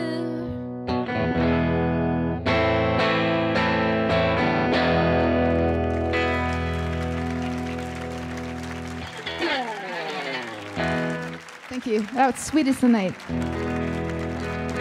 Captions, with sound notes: (light guitar music) (audience applauding) Thank you, that's "Sweet Is The Night."